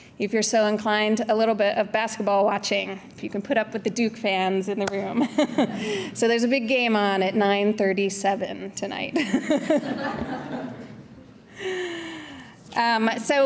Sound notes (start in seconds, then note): 5.2 chuckles; 9.2 audience laughter; 9.2 laughs